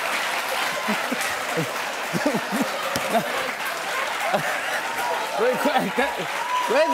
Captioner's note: laughing